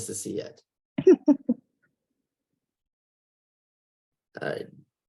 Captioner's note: laughing